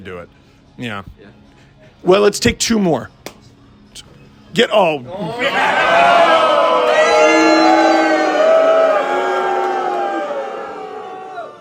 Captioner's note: crowd: Cheering, booing